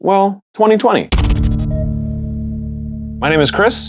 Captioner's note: digital beeps and music note